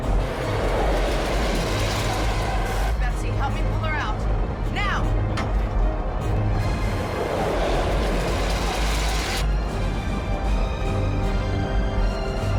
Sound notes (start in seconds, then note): 0.0 engines sputtering; 6.8 dramatic music